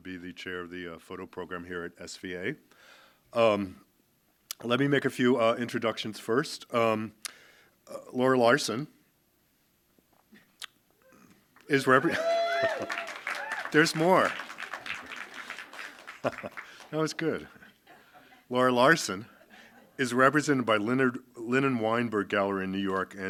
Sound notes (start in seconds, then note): 11.7 audience cheering and clapping